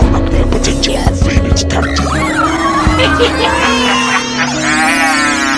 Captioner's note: man speaking foreign language